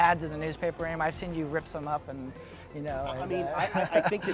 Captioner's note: laughs